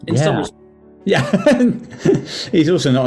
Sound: laughing

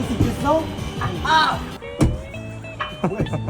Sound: clunk!

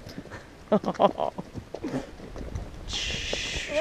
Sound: nervous laughter

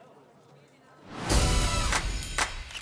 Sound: upbeat music continues; school bell rings

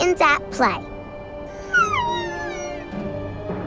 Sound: whimpering

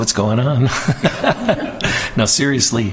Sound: laughter

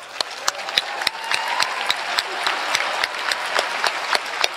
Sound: applause

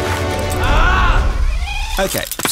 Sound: screams

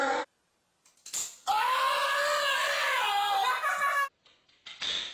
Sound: man screams; slowed down scream

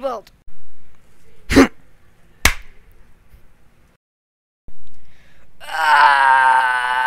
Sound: slap

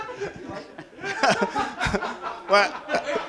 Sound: laughter

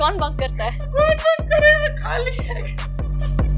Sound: crying

